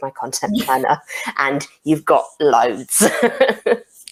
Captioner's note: laughs